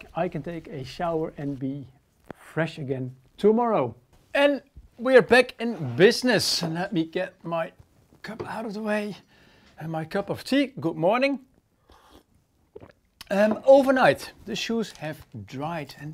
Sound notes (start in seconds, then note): 11.8 sips